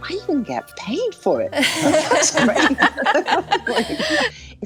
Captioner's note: everyone laughing